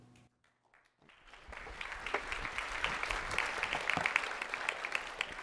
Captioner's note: applause